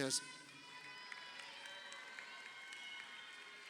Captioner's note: crowd cheering